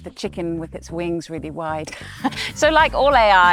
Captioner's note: laughs